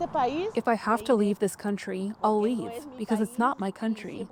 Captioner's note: through translator